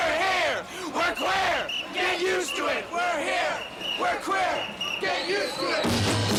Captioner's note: people chanting; marching band music